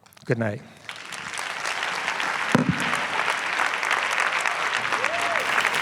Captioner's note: applause